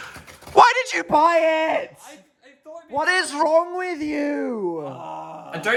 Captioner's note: screaming